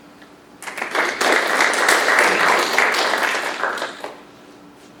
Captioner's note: audience applauds